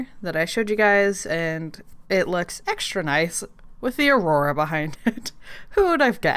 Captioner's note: laughs